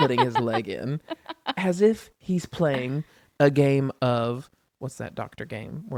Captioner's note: laughs